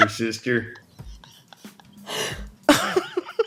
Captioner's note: laughter